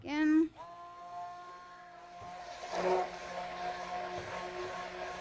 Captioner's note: blender roaring